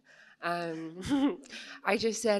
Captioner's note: laughs